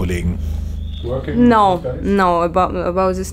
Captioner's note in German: englisch